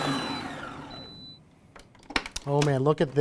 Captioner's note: mixer beeping